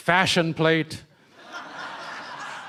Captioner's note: laughter